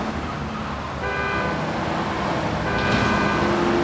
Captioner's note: horn honking